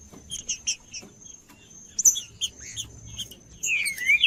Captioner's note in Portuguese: trinca ferro cantando